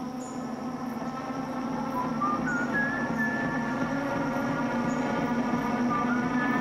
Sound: whistles

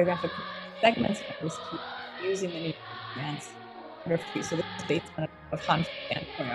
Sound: audio distortion

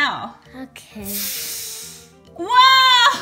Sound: air blowing; laughs

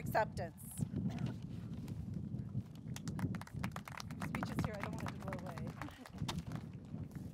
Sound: applause

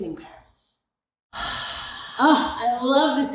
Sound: exhales

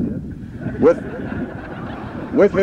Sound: laughter

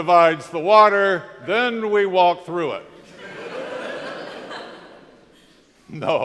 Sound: crowd laughs

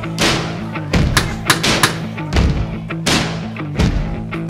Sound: teacher knocking

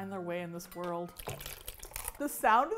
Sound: soup sloshes

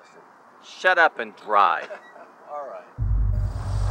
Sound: laughs

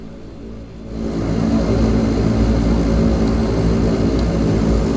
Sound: engine roaring

